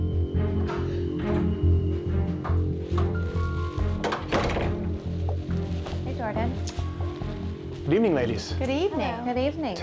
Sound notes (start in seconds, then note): 4.0 wooden door thuds